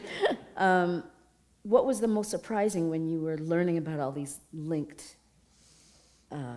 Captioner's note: chuckle